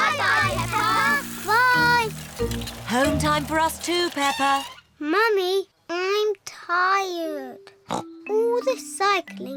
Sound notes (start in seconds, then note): 7.4 snorts